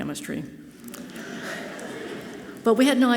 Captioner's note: audience laughing softly